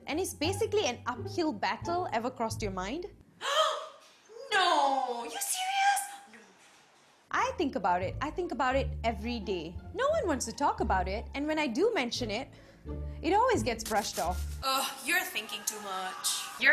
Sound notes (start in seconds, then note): 3.4 woman gasps; 14.7 woman groans